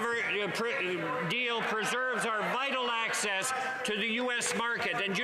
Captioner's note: some Applause